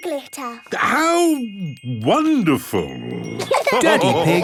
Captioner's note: laughter